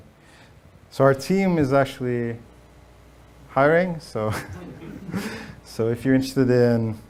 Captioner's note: laughs